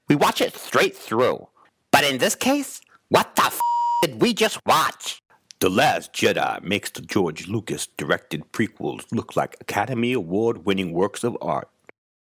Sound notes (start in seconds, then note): 3.6 beep